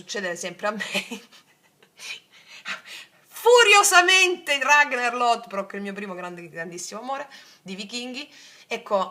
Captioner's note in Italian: risate